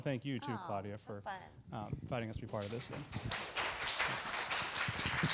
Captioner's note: applause